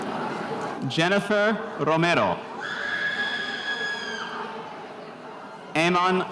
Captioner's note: spectator cheering